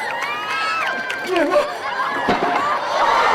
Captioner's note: exclaims